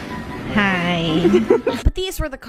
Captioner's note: laughs